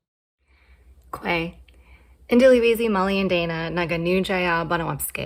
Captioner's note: speaking in Penobscot language